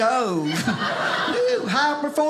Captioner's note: audience laughing